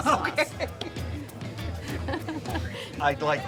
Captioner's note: chuckling